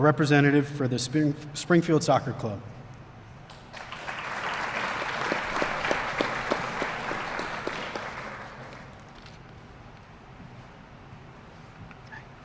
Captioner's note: applause